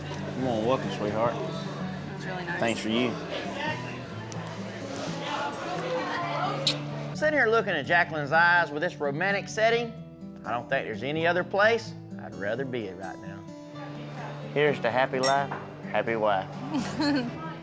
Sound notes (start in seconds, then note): 15.2 glasses clink; 16.6 giggles